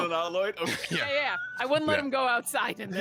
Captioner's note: laughing